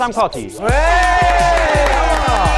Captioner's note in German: Jubel, Applaus, Tröte